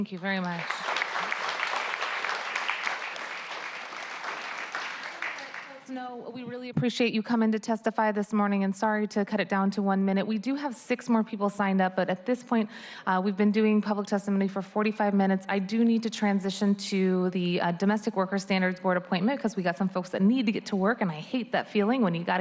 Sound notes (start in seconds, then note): 6.0 applause